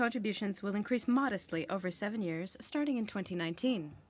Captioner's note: speaking french